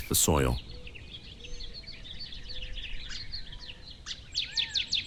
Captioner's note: birds chirping